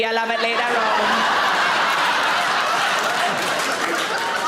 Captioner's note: audience laughing